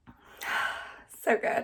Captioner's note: exhales